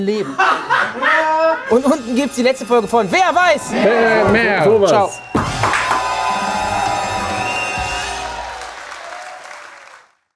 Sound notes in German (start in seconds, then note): 0.2 Lautes Lachen im Hintergrund; 5.3 Jubel, Applaus